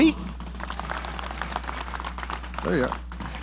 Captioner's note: audience applauding